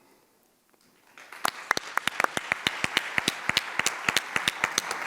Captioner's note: audience applauds